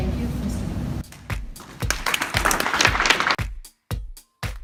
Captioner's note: applause; upbeat music